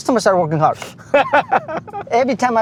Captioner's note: laughs